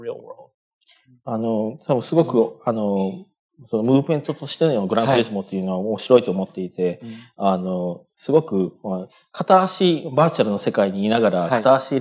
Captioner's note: speaking japanese